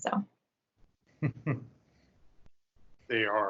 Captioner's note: chuckling